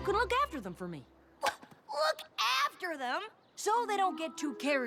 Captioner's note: thwack